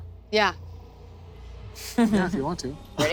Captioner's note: chuckles